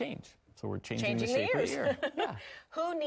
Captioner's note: laughs